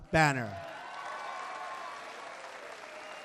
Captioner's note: applause